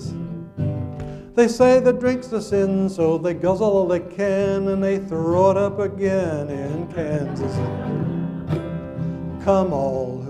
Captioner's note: audience laughs